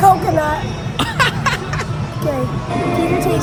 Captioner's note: laughter